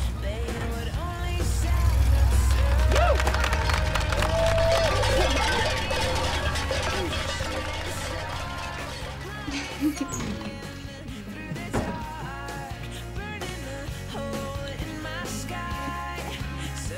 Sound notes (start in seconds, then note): 2.0 cheering and applause; 9.6 Sarah giggles